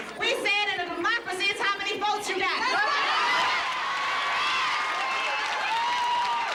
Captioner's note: cheers